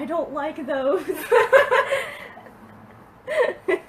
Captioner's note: laughs